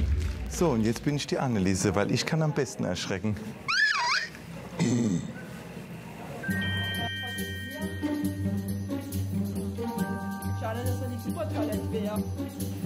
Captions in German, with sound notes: So, und jetzt bin ich die Anneliese, weil ich kann am besten erschrecken. (Hohes Lachen und tiefes Grunzen) (Abwartende Musik) Schade, dass das nicht "Supertalent" wär.